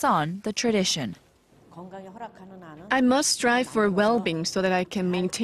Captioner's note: korean